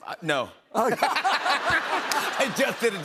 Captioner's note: laughter